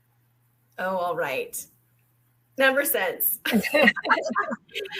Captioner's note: laughter